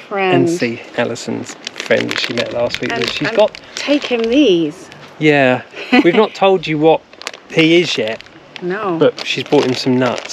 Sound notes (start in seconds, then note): 5.7 laughter